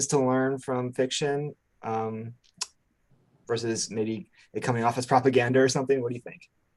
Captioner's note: lip smack